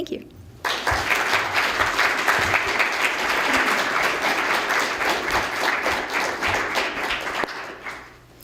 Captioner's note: applause